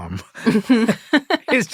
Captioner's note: laughter